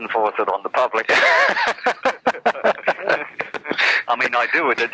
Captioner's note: laughs